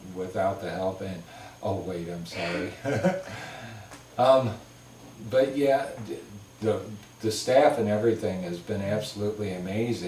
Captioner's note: laugh